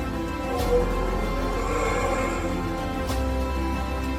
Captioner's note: dramatic music continues; Bigfoot growling